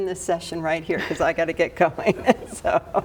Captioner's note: laughing